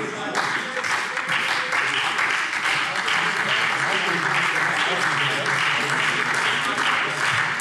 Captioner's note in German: Beifall SPD - Lebhafte Zurufe CDU und AfD